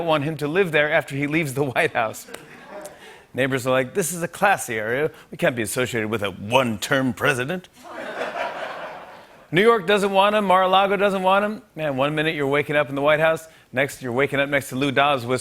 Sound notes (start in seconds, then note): 7.8 laughter